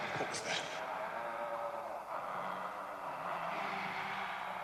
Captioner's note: undead moaning